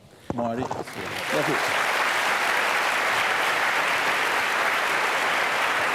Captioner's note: applause